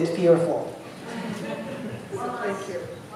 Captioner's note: laughter